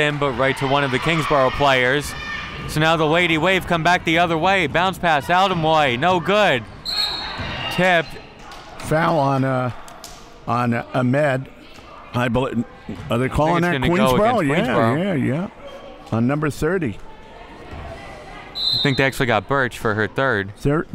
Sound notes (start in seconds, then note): 6.8 referee blows whistle; 18.5 referee blows whistle